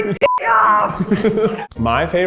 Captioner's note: laughs